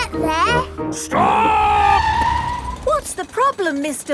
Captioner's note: tires screeching